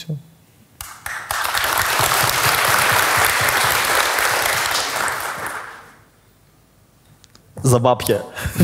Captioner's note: the audience cheers